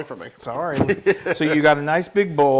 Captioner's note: laugh